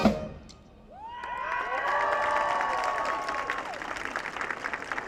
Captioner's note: audience cheering